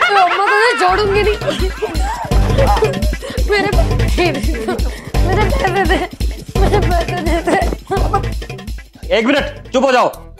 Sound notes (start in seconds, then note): 0.5 quarreling